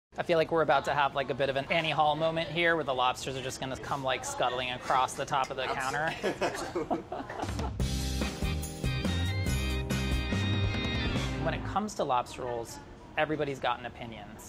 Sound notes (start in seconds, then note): 5.5 laughing; 7.5 hip music